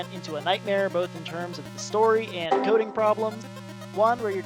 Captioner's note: windows error sound